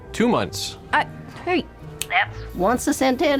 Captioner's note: snaps fingers